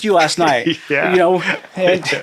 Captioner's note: chuckling